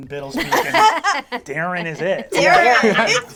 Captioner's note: all laugh